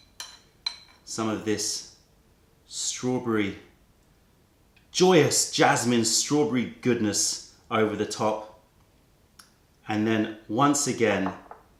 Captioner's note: joyous